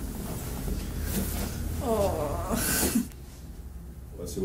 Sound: chuckle and a sigh

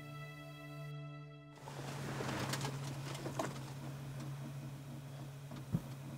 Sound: gentle music; engine humming

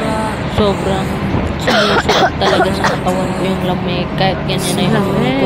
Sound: coughing

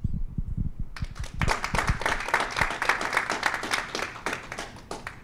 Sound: applause

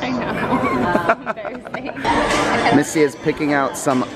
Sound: laughing

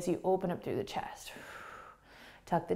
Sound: exhaling

